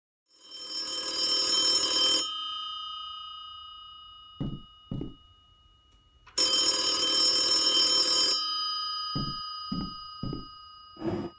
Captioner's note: phone rings